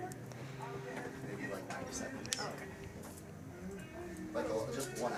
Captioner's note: indistinct chatter